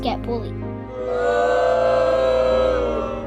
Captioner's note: boooo